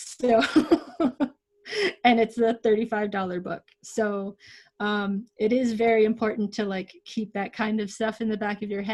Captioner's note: laughs